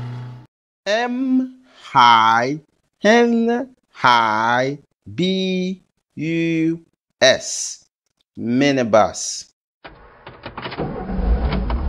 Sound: minibus Sound

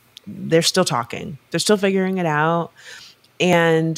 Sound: none

